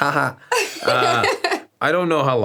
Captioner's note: laughs